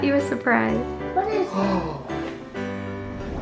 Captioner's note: gasping